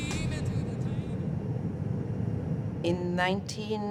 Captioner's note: airplane engine humming